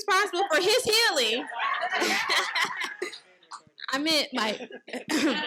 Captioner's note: participants laughing